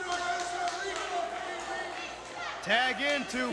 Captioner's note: crowd chatter